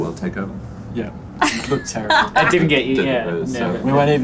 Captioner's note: laughs